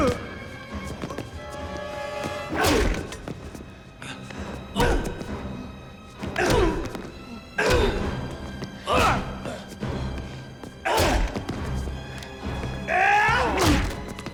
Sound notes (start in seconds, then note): 0.1 Dalton thudding; 2.5 punches thudding; 6.3 Dalton grunting; 9.1 Gammon grunting; 9.1 blows thudding